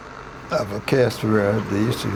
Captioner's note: static interference